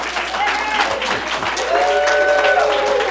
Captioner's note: applause